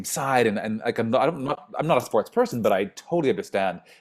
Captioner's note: stammers